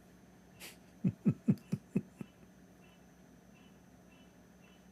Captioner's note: Ketawa